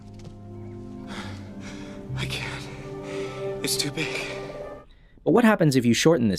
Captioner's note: sighs